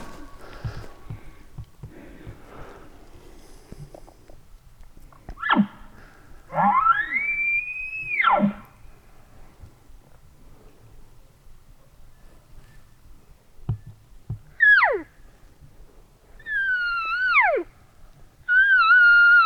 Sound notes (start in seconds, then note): 6.5 caller bark bugling; 14.2 caller cow calling